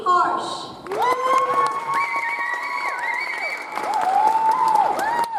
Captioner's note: audience applauds